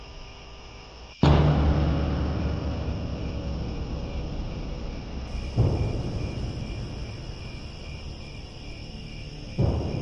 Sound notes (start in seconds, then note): 0.0 drum hit, crickets; 6.6 crickets; 9.0 scary music, crickets